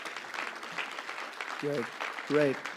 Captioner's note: applause